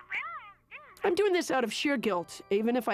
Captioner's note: phone voice responds